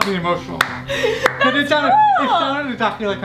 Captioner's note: laughing